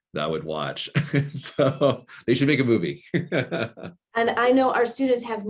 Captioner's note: chuckling; laughing